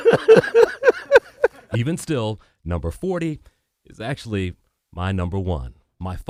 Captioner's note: laughter